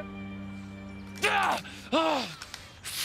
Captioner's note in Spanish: Gritos